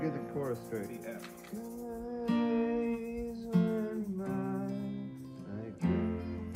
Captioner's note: humming